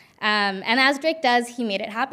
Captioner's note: none